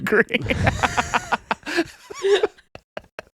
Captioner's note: laughing